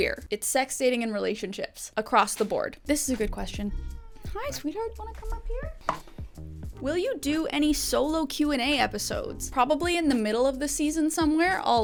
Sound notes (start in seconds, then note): 3.7 cat meows; 5.8 gentle music continues